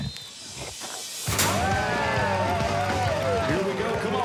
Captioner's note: cheering